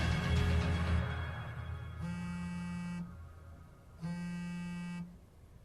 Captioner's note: cellulare che vibra